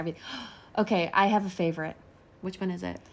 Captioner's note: gasps